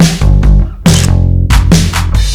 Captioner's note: photo click